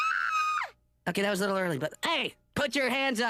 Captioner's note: screams